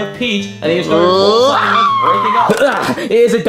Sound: Luigi screaming

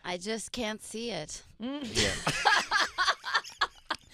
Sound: laughing

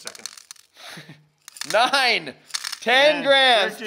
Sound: laughs

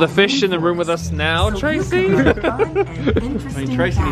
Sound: laughs

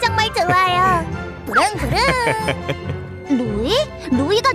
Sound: Kevin laughs

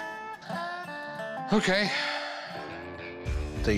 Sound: sighs

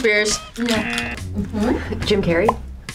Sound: buzzer sounds

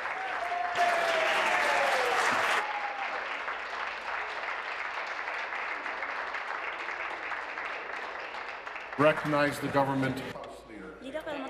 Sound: applause

